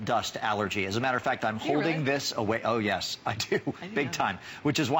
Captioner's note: laughter